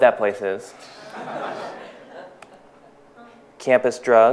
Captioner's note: audience laughs